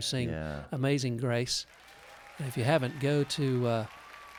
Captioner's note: applause and cheering